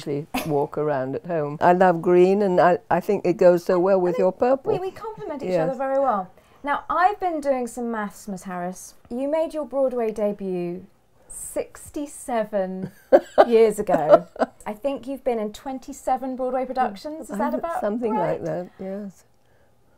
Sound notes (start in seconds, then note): 13.0 laughs